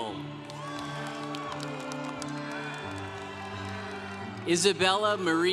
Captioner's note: congregation cheering